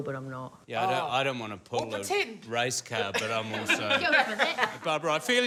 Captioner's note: laughs